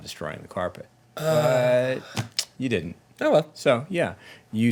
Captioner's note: sighs